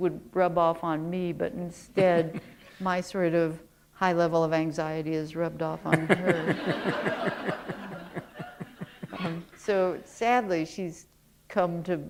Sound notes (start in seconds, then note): 7.5 chuckle